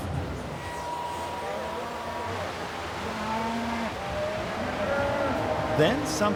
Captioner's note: pet hair dryer whirring; cows mooing